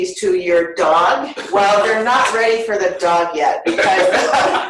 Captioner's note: laughter